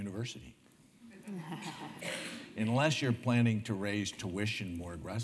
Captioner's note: laugh